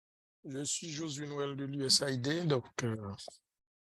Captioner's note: non-english speech